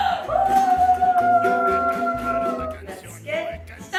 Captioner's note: applause